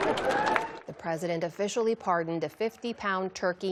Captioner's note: cheering